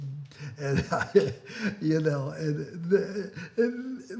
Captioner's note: laughs